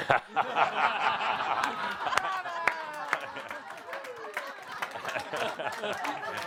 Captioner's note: much laughter from audience and Adamus